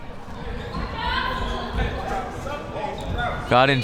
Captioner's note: crowd members shouting